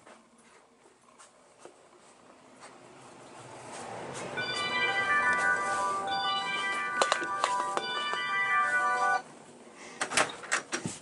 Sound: 1990's cell phone ringing

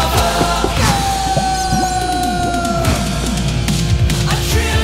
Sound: screaming

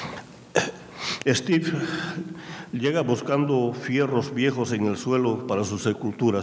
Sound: speaking in a foreign language

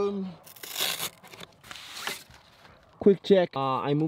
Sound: cloth tears

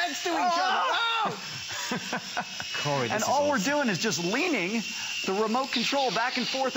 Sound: laughter

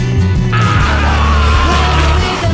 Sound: jack screaming

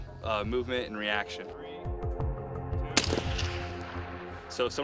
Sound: gunshot

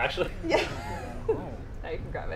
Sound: laughing

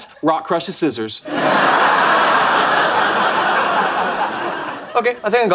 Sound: audience laughing

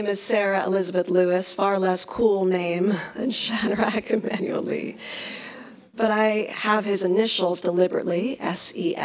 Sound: laughs

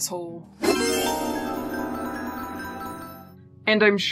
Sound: twinkly magical Ta Da! sounds

